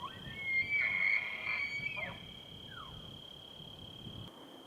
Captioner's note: elk bugles